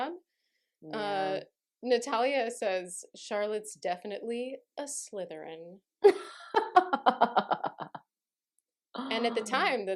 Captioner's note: maniacal laughter